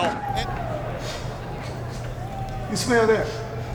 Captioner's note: sniffs